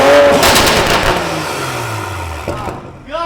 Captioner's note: engine revving